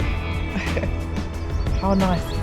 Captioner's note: chuckles